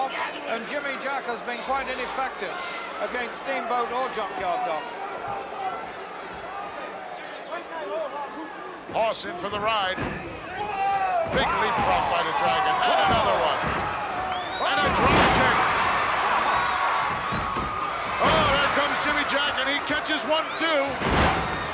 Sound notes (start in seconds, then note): 15.9 audience cheering